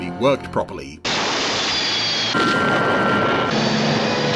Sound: crashing; explosion

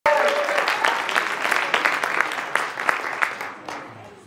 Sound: applause

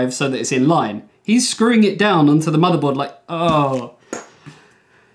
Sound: deep breath

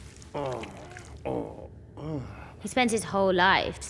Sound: groaning

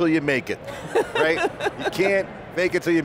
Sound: laughs

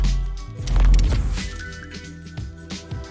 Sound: bell jingles

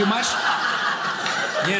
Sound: audience laughing

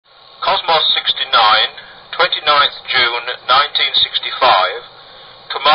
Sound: recording of satellite

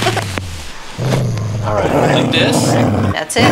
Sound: dubbed growling

